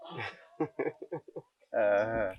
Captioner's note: laughs